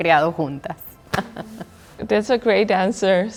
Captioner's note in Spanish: Risas